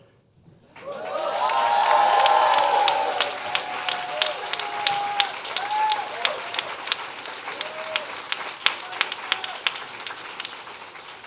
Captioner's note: applause